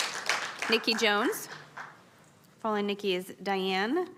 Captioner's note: applause